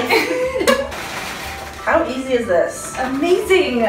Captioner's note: laughs